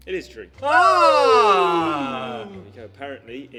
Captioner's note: both cheering